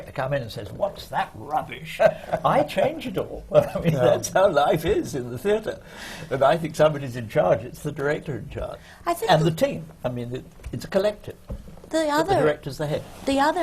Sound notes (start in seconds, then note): 3.5 laughs